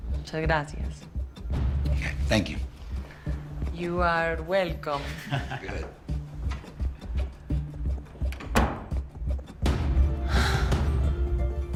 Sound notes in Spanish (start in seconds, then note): 8.3 Sonido al cerrar la puerta